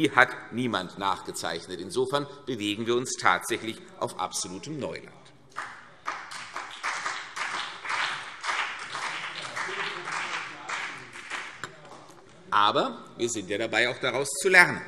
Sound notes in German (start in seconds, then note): 5.5 Beifall CDU und BÜNDNIS 90/DIE GRÜNEN